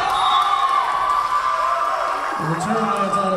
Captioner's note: whistle blowing; Tigers cheering